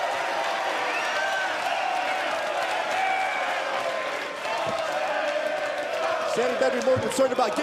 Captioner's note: cheers & applause